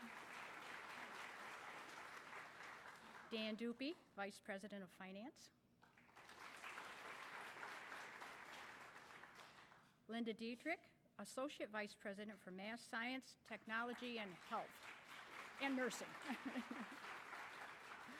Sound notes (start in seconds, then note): 2.6 applause; 15.3 applause